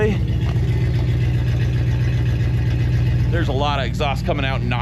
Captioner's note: engine rumbling